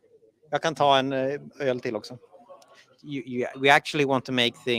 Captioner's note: speaking in Swedish